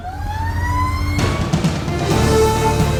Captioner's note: siren wailing